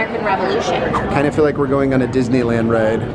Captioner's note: air whooshes